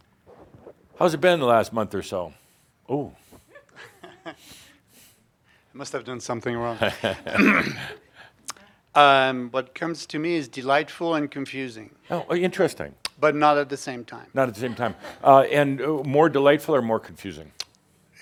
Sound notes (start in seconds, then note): 6.8 Adamus chuckles